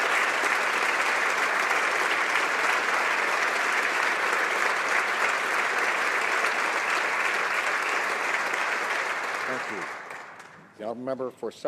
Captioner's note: applause